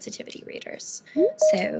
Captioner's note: beeping